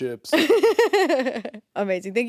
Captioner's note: chuckling